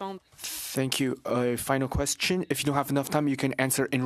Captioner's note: speaking French